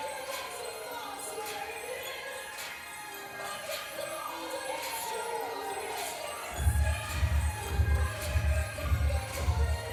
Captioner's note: applause